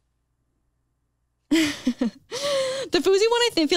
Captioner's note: chuckles